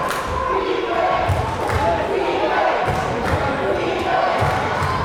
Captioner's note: crowd chanting defense